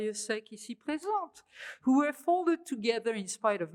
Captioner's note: french